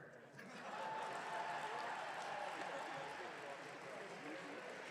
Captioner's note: audience cheering